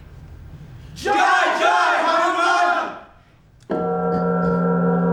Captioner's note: speaking in a foreign language; gong